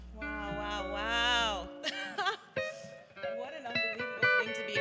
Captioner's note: gentle guitar music; laughs